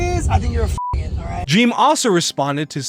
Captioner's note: beeps